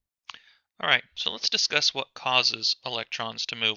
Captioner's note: voiceover